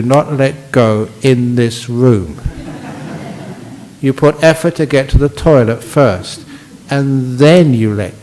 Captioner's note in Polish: Laughs